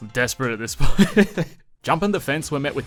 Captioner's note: emotionally damaged laughter